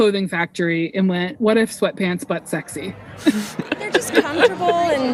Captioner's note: both laugh